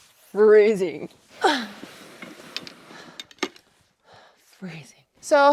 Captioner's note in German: grunzt